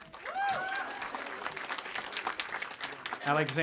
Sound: audience applauding and cheering

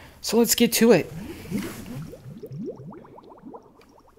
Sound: blorping and bubbling

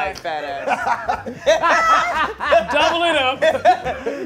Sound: group laughing

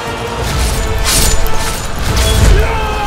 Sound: screams

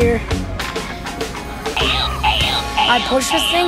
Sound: toy grunting

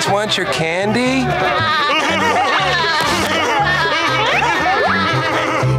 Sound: laughing

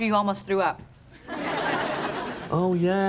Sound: audience laughing

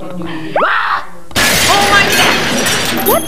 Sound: crashes

